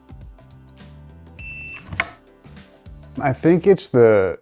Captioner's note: soft beep